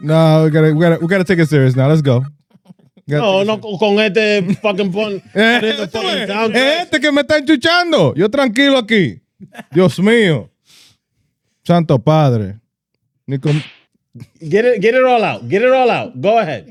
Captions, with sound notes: No, we gotta take it serious now, let's go. (Speaking In Foreign Language) Get it all out, get it all out, go ahead.